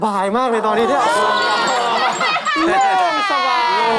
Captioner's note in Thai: หัวเราะ